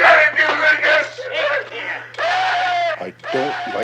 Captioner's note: Barney screams